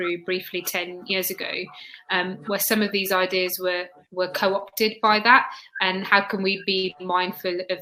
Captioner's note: erm